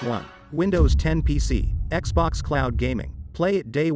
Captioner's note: dramatic sound